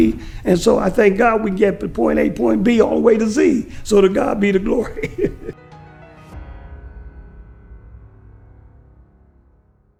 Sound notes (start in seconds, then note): 4.6 laugh